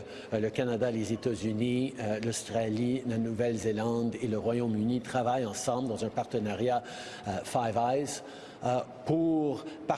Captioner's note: speaking French